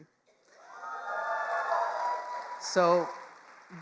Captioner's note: attendees cheering and applauding